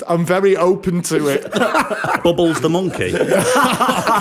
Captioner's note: laughter